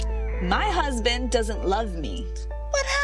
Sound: cat's meow

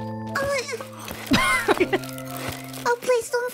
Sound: chuckles

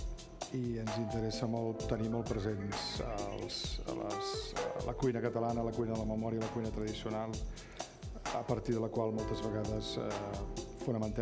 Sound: speaking catalan

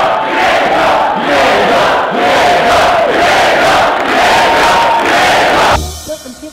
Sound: crowd chanting

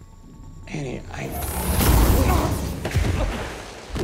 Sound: energy whooshes; Hughie thuds

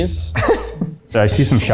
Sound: laughs

